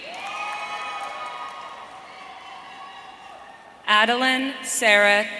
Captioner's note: audience cheering